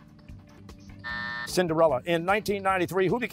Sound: buzzer

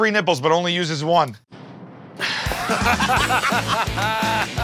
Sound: sighs; laughter

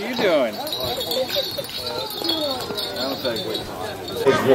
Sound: jingling bells

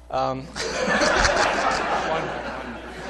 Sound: laughter

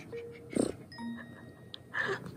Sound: grrrrr

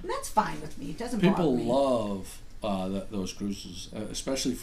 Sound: voiceover

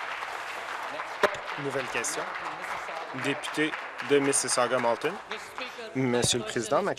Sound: applause

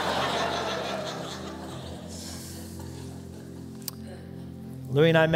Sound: laughter

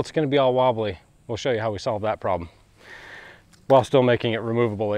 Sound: sigh

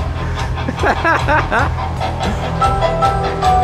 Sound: laughs

